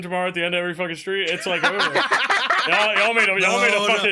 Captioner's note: all laughing